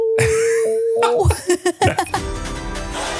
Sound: laughing; uplifting music

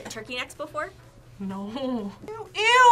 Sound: laughs

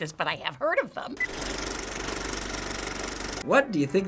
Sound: movie reel clicks

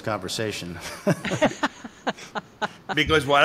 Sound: laughing

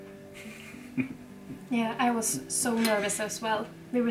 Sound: laughs

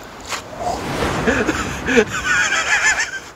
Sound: silly sound effect

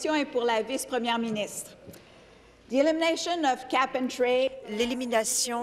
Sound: speaking in French

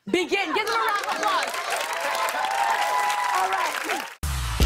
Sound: cheers and applause

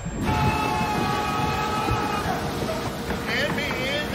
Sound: men screaming; knocking

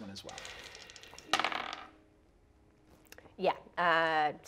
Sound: dice rolling

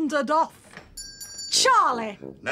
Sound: ding!

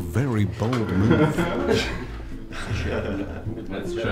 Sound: laughter

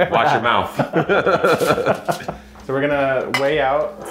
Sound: both men laughing

